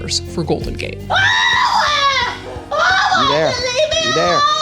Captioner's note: person crying